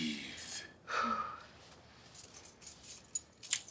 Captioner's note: exhales loudly; keys jingling